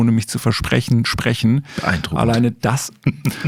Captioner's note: laughs